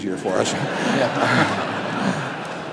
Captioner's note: laughter